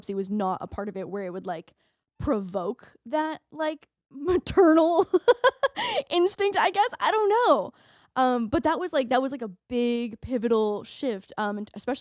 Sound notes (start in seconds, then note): 5.2 laughing